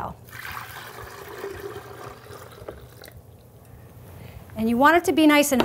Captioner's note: liquid splashing